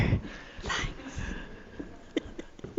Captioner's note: laughter